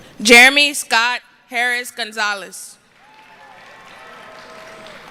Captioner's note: applause